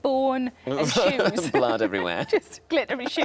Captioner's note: laughs